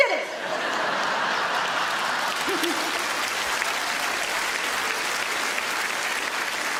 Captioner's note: audience laughs; audience applauds